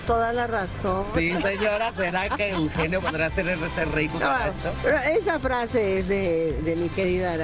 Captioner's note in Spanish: risas